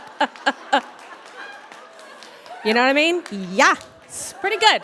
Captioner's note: audience laughs